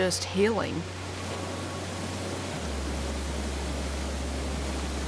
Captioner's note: water roaring